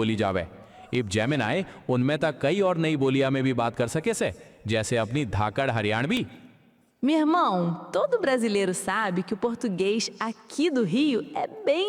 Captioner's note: speaking various languages